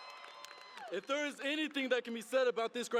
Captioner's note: cheering and applause